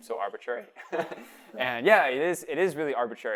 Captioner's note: laughter